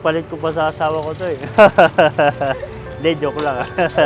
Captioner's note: laughs